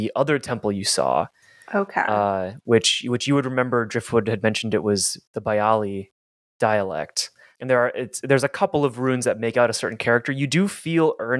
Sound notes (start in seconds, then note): none